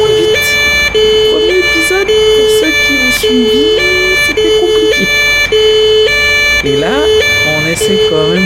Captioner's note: laughs